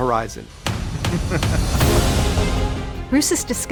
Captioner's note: laughing